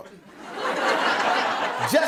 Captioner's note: laughter